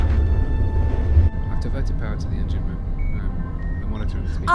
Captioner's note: indistinct chatter in background